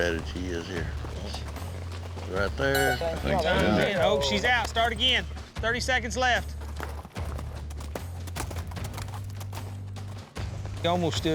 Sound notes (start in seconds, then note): 2.6 horn blows; 7.2 hoofbeats